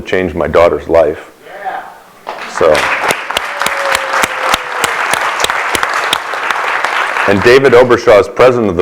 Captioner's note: applause